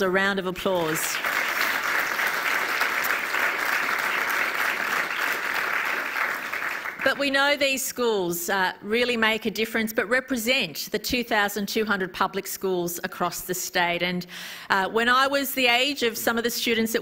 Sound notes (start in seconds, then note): 9.8 applause